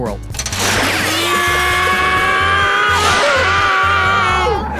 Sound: screaming

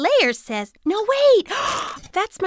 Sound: gasp

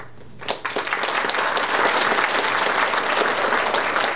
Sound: audience applauding

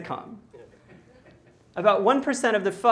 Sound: laughter

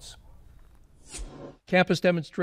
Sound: air whooshing

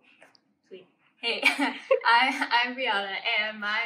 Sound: laughs

